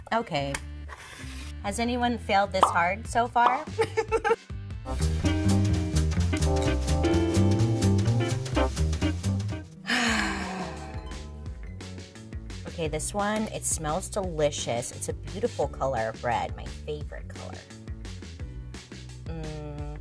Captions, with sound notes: Okay. Has anyone failed this hard so far? (sighing) Okay. This one, it smells delicious. It's a beautiful color of red. My favorite color.